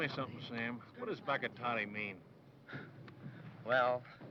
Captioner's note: speaking foreign language